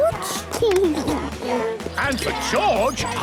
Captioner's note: giggles; George snorts